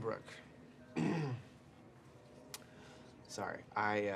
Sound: Kyle clears throat

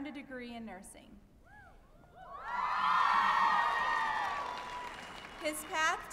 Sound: applause and cheering

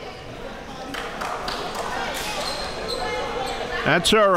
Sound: applause

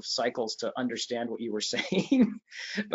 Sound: chuckles

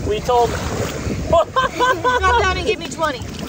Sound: laughs

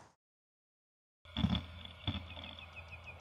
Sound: grinding; birds chirping

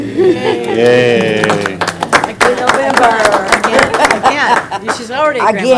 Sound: applause

